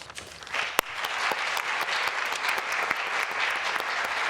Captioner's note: applause